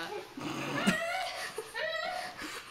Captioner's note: loud snorts